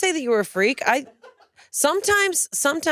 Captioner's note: crew laughing